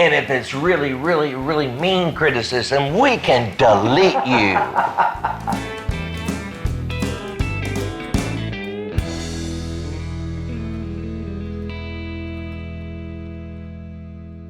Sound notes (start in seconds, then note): 6.3 laughing; 8.0 guitar music